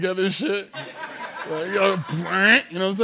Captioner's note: laughter